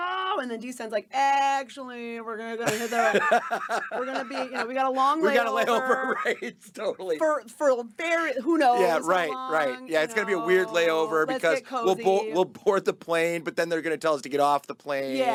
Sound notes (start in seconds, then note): 2.6 laughing; 7.0 laughing